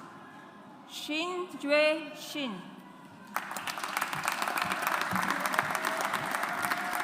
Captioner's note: audience applauds